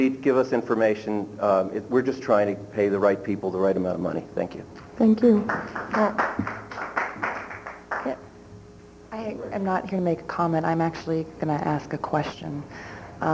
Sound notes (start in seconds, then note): 5.4 applause